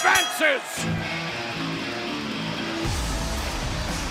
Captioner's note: bell ringing